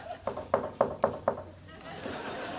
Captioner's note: knocks on table